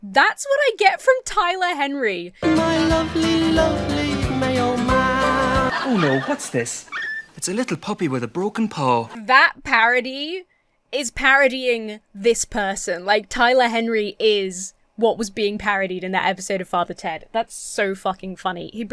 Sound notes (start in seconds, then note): 5.3 audience laughs; 6.9 dog yips